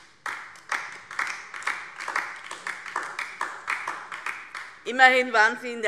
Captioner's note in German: Beifall DIE LINKE